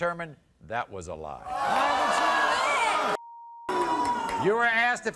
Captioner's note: audience booing